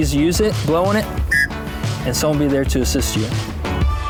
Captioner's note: blows whistle